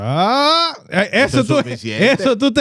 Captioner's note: speaking In Foreign Language